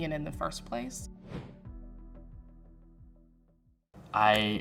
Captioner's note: wind whooshes